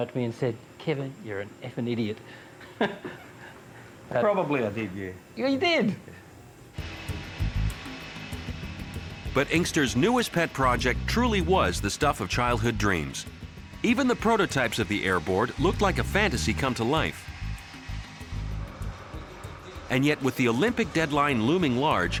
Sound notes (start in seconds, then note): 2.6 both laughing; 6.5 airboard whirring